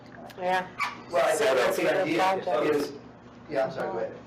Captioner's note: indistinct chatter